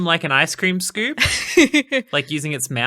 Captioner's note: laughing